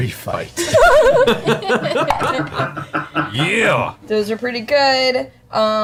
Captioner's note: all laugh